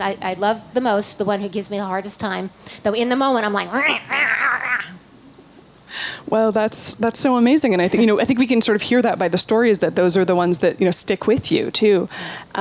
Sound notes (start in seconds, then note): 3.9 growling